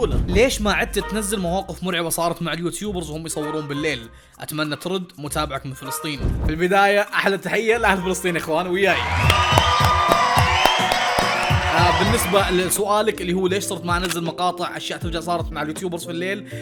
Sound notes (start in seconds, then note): 8.8 cheering and applauding